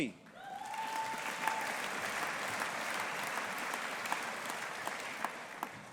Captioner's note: audience applauding